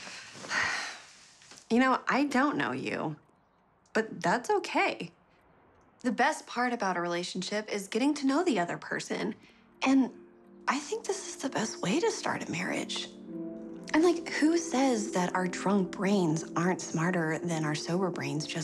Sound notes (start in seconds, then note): 0.1 sighing; 9.9 light music